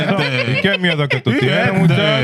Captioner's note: speaking Spanish